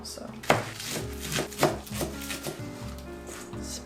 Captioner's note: cutting sounds